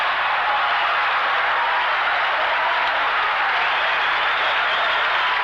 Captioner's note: applause